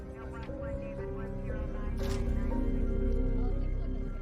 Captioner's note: camera shutter snapping